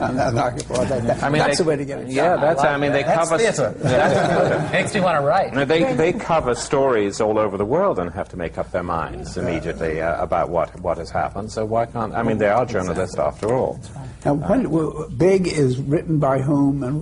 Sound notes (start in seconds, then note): 3.8 laughter